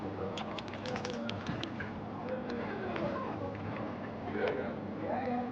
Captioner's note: keys clacking; people chattering